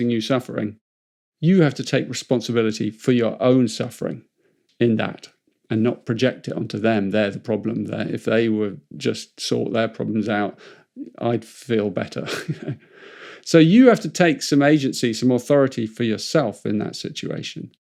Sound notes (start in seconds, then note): 12.2 laughs